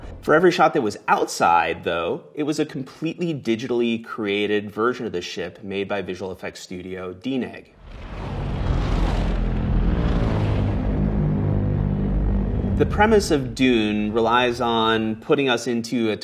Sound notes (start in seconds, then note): 7.8 ornithopters hum